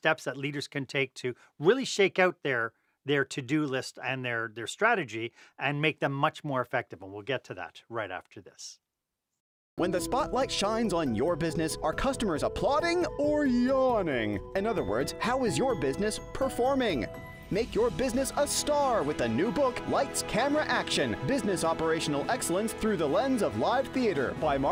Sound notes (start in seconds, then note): 9.6 voiceover